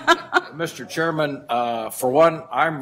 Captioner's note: laughter